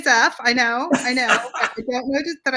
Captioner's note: laughs